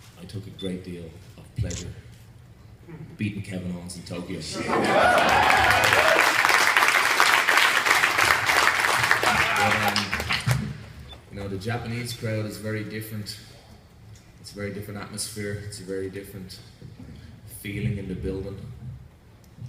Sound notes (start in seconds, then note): 4.5 cheers & applause